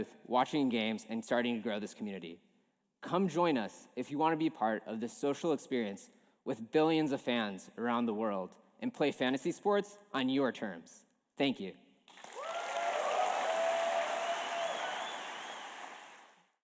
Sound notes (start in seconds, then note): 12.0 applause